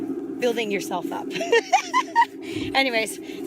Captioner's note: laughs